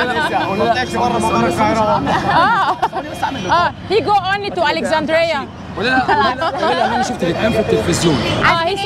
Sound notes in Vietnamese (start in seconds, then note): 2.0 Tiếng cười